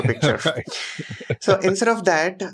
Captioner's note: laughs